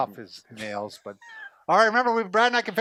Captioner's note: laughs